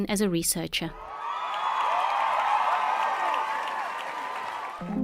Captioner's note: sound of people clapping